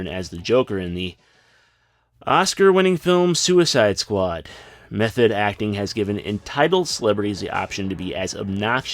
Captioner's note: sigh